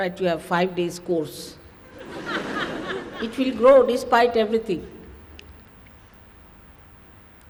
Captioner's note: laughter